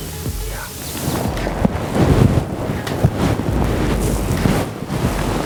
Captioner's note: fabric rustling